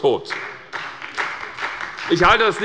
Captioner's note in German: Beifall bei Abgeordneten der SPD